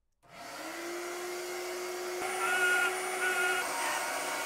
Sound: vacuum cleaner vibrating

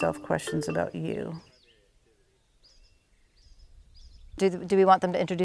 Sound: birds chirping

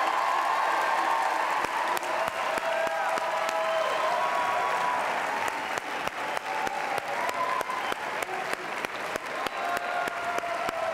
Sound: cheers and applause

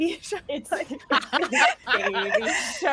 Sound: everyone laughs

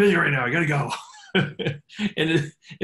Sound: chuckling

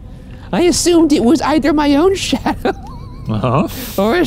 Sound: laughs

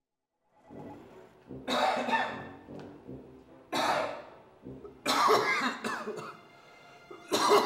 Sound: coughing

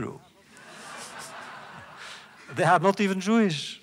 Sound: laughter

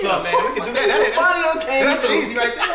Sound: speaking away from mic

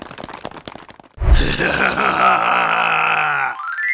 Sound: maniacal laughter

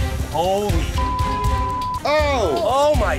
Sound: beeping

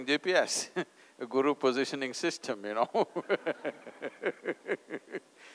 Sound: few Laughs

